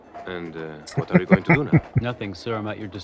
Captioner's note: chuckling